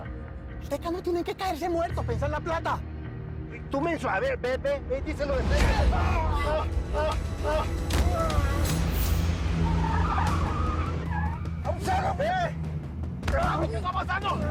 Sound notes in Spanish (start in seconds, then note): 5.3 Gritos